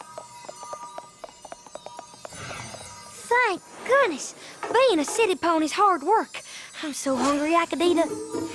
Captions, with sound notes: [ Normal voice ] thank goodness. Being a city pony is hard work. I'm so hungry, I could eat a...